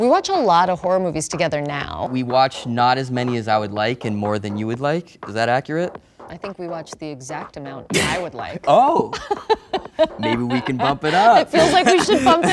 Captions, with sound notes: - We watch a lot of horror movies together now. - We watch not as many as I would like (upbeat pop music) and more than you would like. Is that accurate? - I think we watch the exact amount I would like. (Dave laughs) - Oh. (Alison laughs) Maybe we can bump it up. - It feels like we should bump it up.